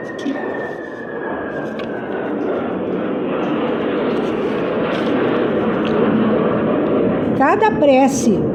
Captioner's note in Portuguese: gemido